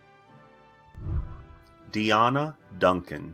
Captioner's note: whooshing